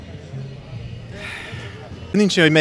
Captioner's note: sigh